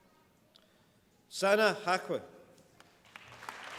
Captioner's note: applause